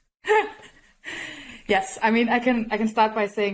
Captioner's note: laughs